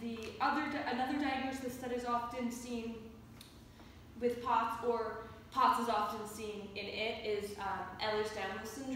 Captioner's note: mouth click